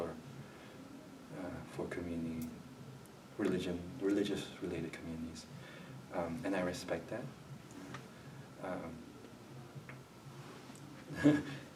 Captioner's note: chuckles